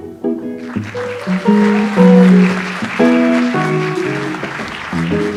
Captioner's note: audience applauds